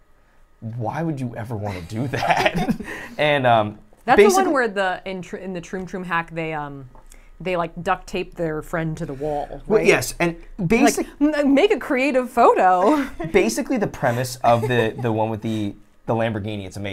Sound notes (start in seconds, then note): 2.0 laughs; 12.6 laughs